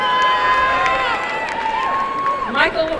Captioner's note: applause and cheering